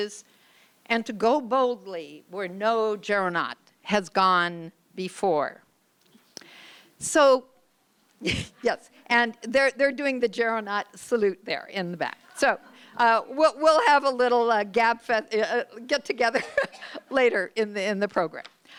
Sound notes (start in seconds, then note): 7.4 chuckles; 16.3 laughs